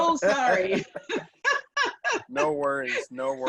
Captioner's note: laughing